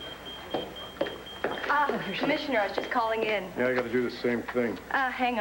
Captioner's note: pager beeps